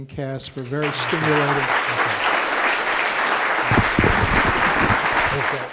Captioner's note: crowd applause